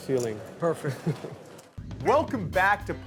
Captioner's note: chuckles